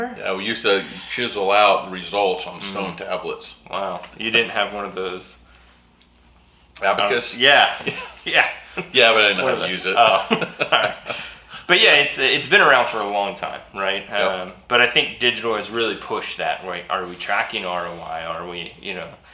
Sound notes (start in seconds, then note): 10.8 laughs